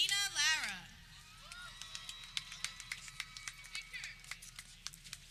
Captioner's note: people cheering